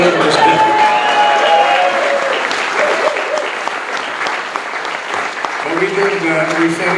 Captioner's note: audience clapping and cheering